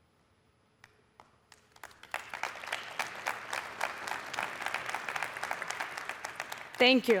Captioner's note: applause